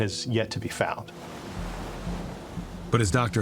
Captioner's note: waves splashing